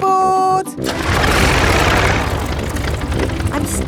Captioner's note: plane engine starts